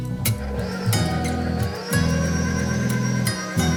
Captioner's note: mixer whirring